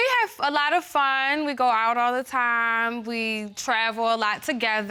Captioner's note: none